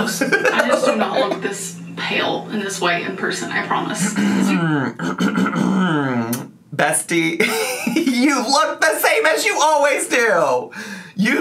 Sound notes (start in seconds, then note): 4.8 clears their throat; 7.3 laughs